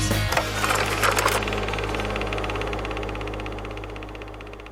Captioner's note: mechanical whirring